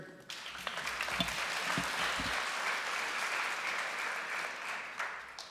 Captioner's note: applause